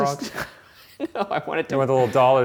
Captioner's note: laughs